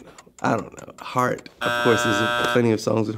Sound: buzzer goes off

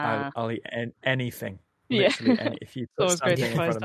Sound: laughs

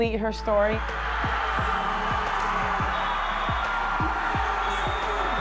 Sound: group cheering

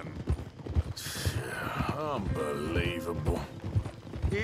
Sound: sighs

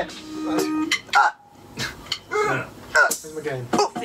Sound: various funk shouts

